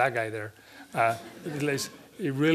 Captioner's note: laughter